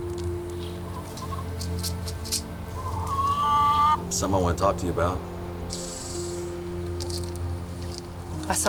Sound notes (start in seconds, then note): 1.8 seeds rattling; 2.7 chickens clucking